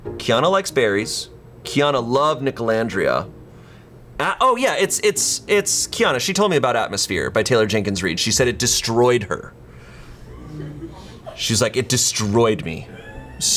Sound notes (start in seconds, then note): 10.2 colleagues laughing